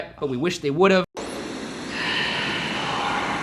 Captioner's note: static plays